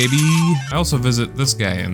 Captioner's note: slot machine jackpot sounds